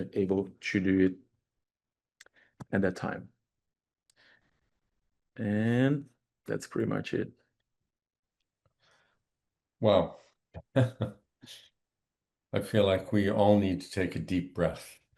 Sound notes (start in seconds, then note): 10.6 chuckles